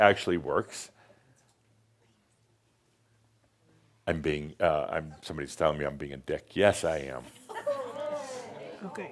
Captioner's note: audience says “Ohh!”